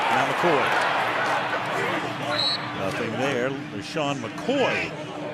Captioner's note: muffled chatter